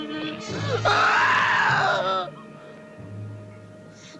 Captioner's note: wailing